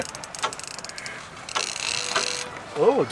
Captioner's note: laughing